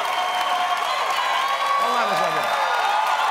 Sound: cheers and applause

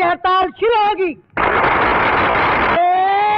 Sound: applauding

